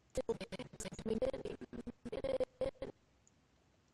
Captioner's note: audio skipping